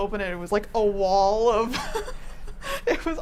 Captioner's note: laughs